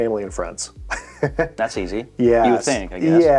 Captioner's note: chuckles